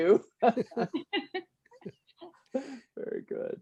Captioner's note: laughter